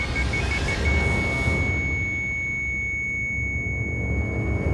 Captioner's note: medical monitors beeping